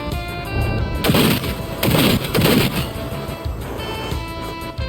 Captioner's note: gunshot fires; gunshots firing